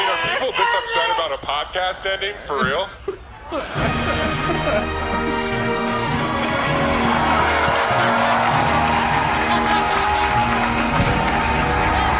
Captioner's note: audience laughing, outro music